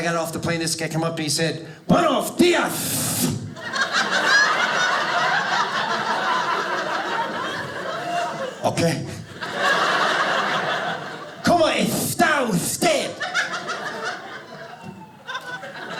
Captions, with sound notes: and I got off the plane and this guy came up and he said, "Buenos dias." (lisp) (audience laughing) Okay. (audience laughing) "Como esta usted?" (audience laughing)